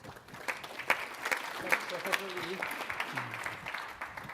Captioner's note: audience clapping